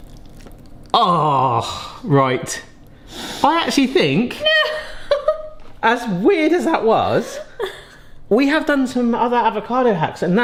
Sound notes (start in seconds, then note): 0.9 groans; 4.4 laughs